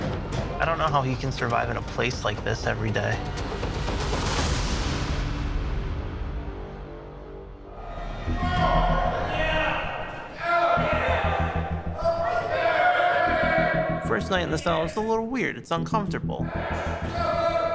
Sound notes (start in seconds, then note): 8.2 inmates yelling faintly